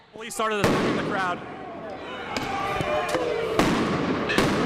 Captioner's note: explosions - police yelling